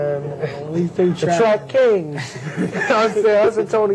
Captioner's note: laugh